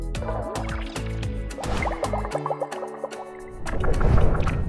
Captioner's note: water bubbling